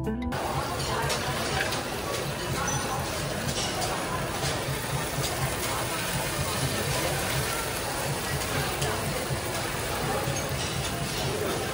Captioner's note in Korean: 굽는소리